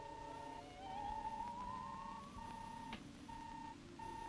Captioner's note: robot beeping